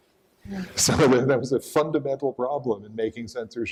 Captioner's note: laughs